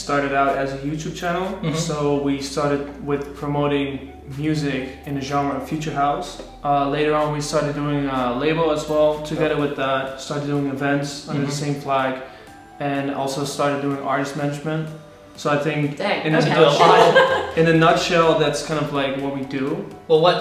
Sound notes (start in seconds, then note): 16.3 laughing